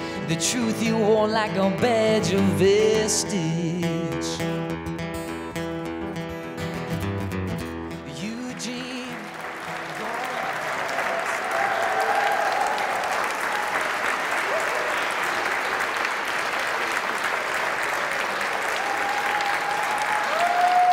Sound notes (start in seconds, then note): 4.6 guitar music; 9.6 audience clapping